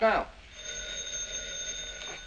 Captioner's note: phone ringing